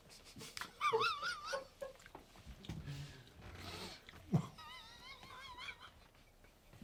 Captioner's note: laughs